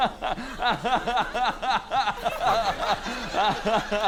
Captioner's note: continues laughing